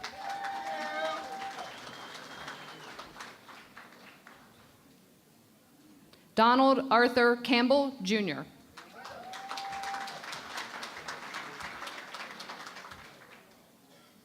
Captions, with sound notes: [ Cheering and Applause ] Donald Arthur Campbell, Junior. [ Cheering and Applause ]